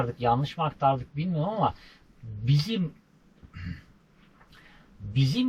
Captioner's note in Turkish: boğazını temizler